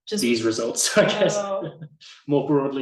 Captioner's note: laughs